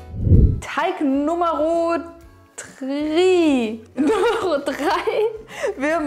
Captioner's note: laughing